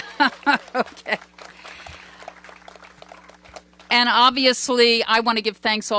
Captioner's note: applause